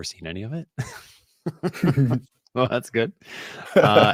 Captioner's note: laughter